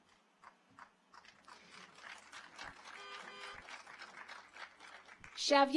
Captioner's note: car horns honking; audience applauds